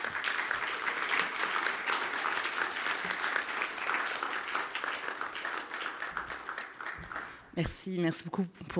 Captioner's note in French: applaudissements